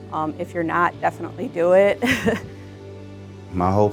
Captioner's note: laughing